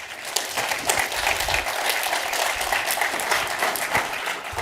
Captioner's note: audience applauding